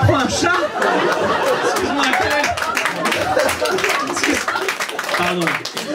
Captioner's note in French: rires public